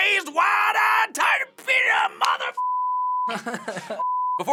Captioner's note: spluttering; laughing